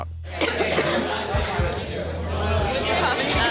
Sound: patron coughs

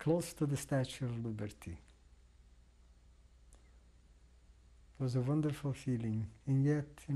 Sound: pauses for 3 seconds

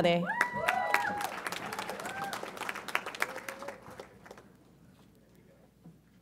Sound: audience applauds and cheers

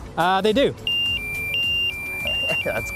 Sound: siren

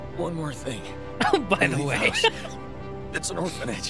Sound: laugh

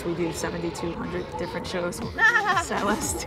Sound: laughter

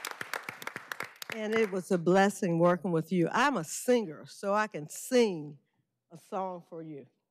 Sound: applause

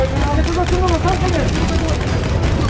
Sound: cameras snap; indistinct background chatter

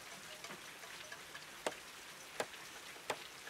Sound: hammer thumping

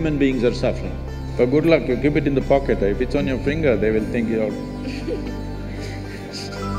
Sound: laughs

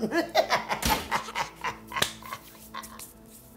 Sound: evil laugh

